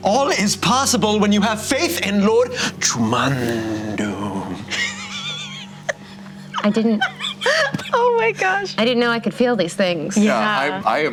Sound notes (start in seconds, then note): 4.7 laughter